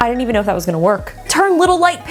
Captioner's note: gasps